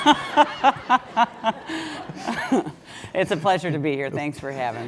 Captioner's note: laugh